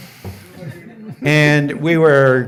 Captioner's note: audience laughing